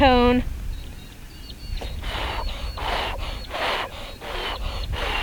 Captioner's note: blowing to dry body paint